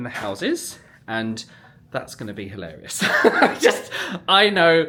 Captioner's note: laughs